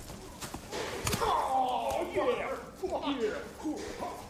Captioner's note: groans